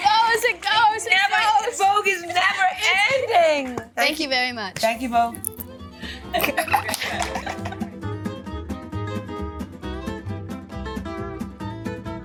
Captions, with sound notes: - It goes, it goes, it goes, it goes. - Vogue is never ending. - Thank you very much. - Thank you, Vogue. [Catherine chuckles] [upbeat music continues]